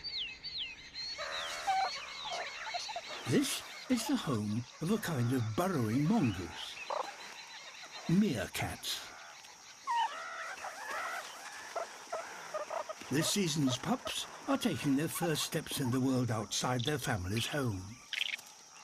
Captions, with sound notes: (CHIRRUPING) This is the home of a kind of burrowing mongoose... Meerkats. (HIGH-PITCHED CHIRPING AND GRUNTING) This season's pups are taking their first steps in the world outside their family's home.